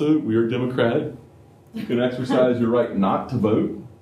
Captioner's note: laughter